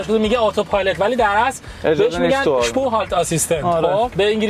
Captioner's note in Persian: صحبت به آلمانی